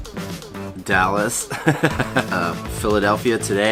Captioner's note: chuckles